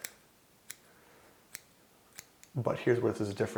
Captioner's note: clipping sounds